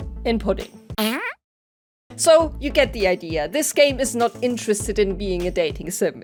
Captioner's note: fart noise